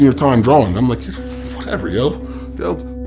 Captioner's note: scoffs